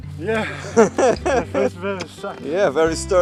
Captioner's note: laughing